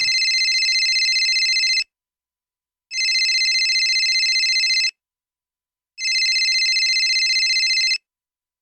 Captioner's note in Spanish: Tono de llamada